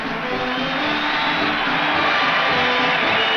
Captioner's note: crowd cheers